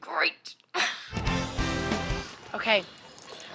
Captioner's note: laughing; upbeat bright music